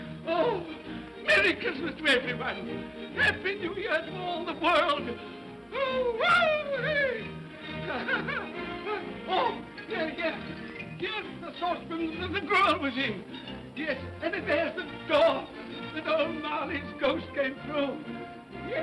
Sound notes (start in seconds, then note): 5.7 Scrooge whoops; 7.6 laughs